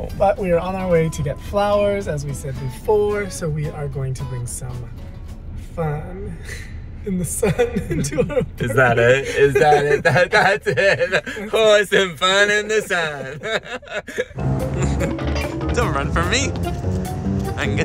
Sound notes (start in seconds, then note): 7.5 laughs; 14.3 uptempo whimsical music; 14.5 laughs